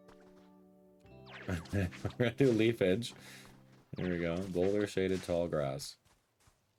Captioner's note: laughs